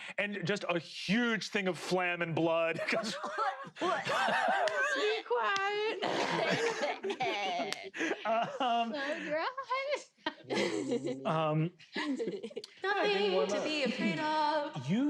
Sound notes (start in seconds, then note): 2.8 coughing; 5.8 coughs